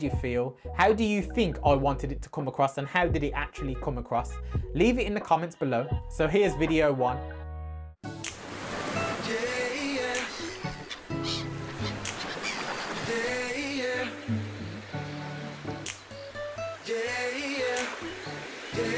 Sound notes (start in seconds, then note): 8.2 fingers snapping; 8.6 waves crashing; 11.6 waves crashing